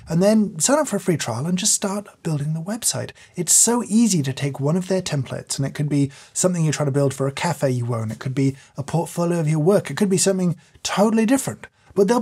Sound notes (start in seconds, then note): none